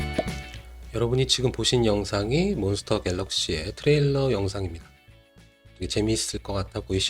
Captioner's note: pop!